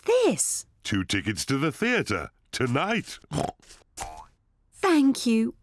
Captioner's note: oinks